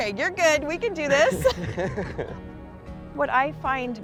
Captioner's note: both laughing